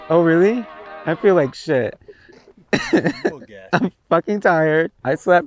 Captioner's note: laughs